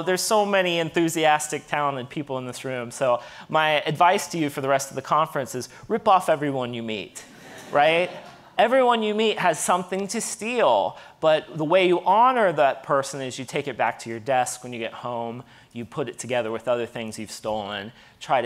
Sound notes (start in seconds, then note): 7.2 audience laughing